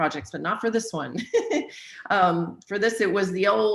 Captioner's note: laughs